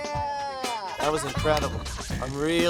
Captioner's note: hands smack